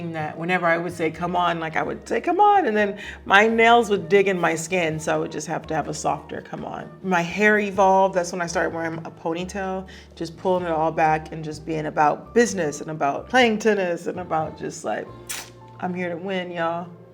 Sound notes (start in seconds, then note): 15.2 lip smacking